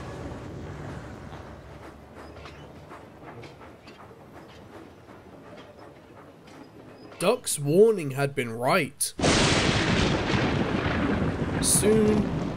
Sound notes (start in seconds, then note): 9.1 lightning booms